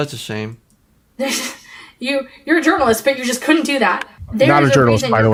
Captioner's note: scoffs